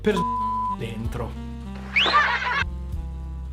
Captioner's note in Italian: fischio e risate